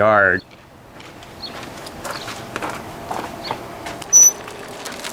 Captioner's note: dirt scrunching; metal squeeking